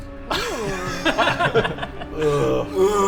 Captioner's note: judgemental laughter